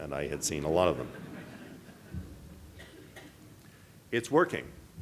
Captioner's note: audience laughing